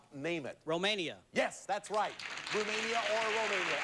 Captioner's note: audience applauding